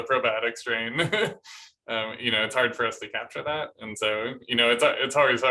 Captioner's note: laughter